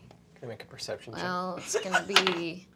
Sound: laughs

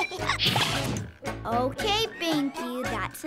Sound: giggle

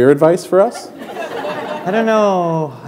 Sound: laughter

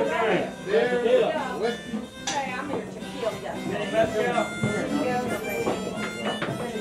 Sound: harmonica music; people chattering

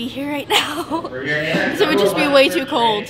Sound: laughing loudly

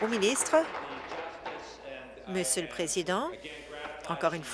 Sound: applause

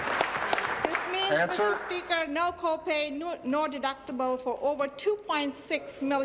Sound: applause

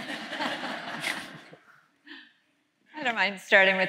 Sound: laughter

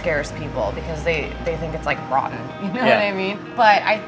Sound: laughs

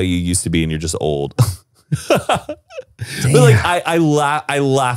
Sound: laughing

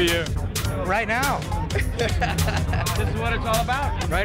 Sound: laughs

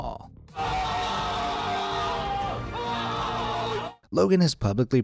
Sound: all screaming

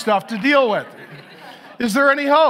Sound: audience laughs

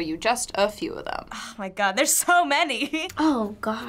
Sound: chuckles

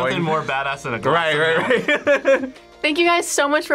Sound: laughs

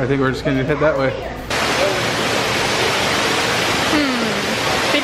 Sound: water rushing

